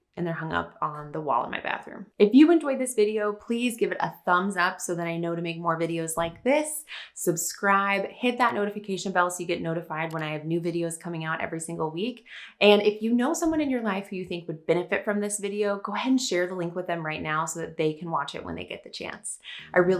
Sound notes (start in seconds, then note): 10.0 mouse clicks; 19.5 upbeat music